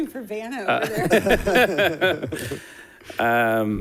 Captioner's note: laughs